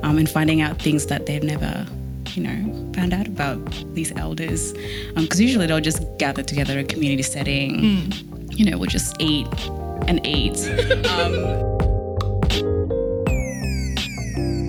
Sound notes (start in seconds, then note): 10.6 laughing; 11.8 upbeat music